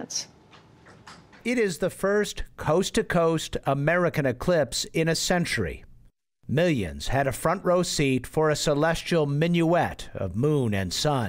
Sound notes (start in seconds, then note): 1.6 voice-over